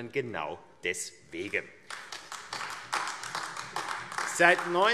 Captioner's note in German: Beifall AfD